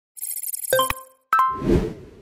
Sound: screen chiming

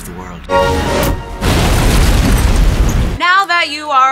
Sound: explosion

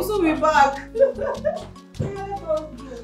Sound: laughs

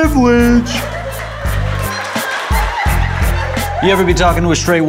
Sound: laughter and applause

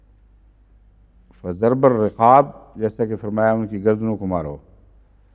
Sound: Arabic

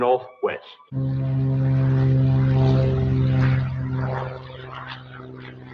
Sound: plane engine roaring

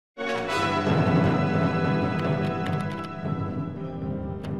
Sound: keyboard keys clacking; exciting music

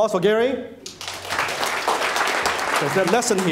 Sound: clapping

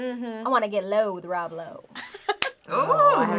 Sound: laughs

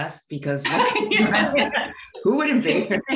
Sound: laughing

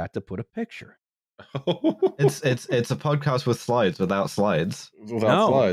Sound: laughs

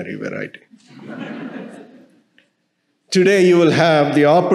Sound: audience laughing

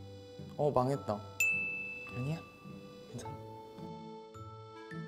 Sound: positive-ping

